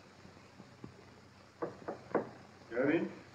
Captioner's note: knock on door